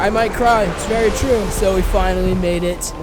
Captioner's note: ghostly Voice